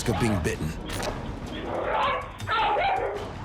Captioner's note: barking and snarling